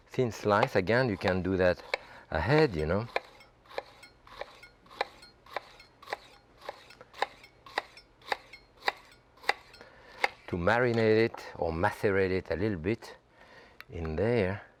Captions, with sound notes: Thin slice again, you can do that ahead, you know? (knife tapping) To marinate it or macerate it a little bit in there,